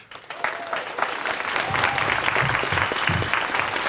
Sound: applause

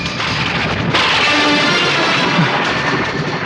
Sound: thunder crashing

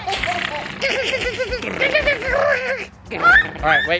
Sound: imitates raccoon sound

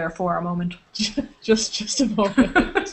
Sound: laughter

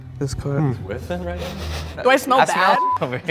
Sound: sniffing

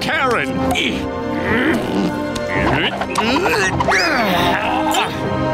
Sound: grunting

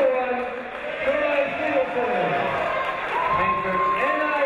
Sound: crowd cheering

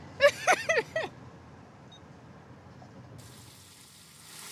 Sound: laughs

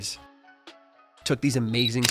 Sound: camera clicking

